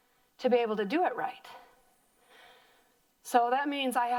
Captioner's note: breathing heavily